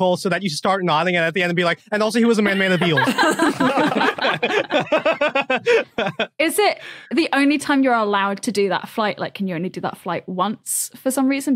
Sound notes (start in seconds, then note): 2.4 group laughing